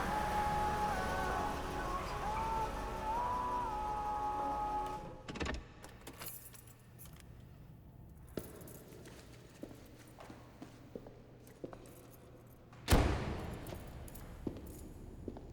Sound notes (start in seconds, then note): 0.0 car radio music; 0.0 car ties screeching; 5.6 car door clicks; 5.9 keys jangling; 12.9 car door thuds